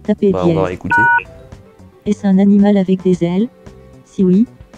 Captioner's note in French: son de touche de téléphone